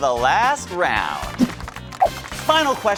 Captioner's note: audience applauding